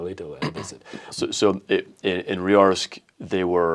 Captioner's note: laughs